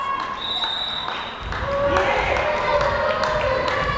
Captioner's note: whistle blares